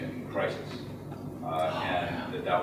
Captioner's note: stage whisper